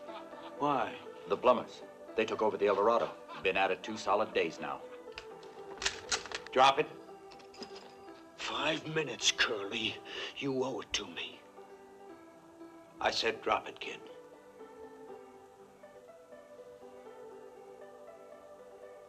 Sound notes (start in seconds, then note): 5.7 rifle cocks